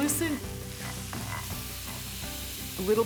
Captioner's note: sizzling